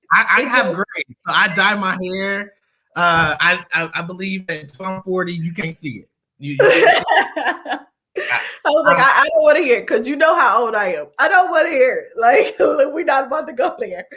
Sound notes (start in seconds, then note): 6.6 laughter